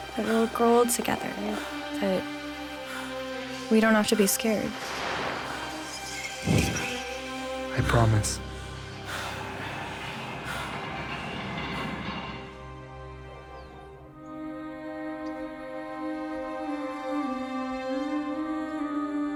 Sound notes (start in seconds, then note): 6.4 wind blows; 16.6 Senka hums